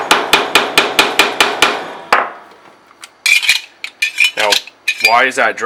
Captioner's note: hammering on metal